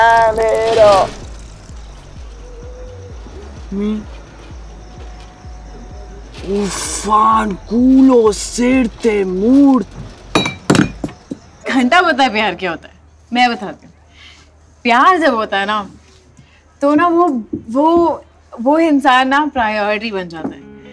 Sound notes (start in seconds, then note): 0.6 Noise inside the car; 10.3 Bottle falls